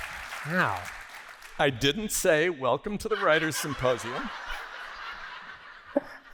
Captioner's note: laughter